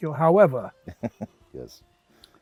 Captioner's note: laughs